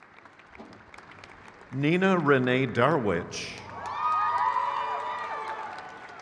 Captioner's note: crowd cheers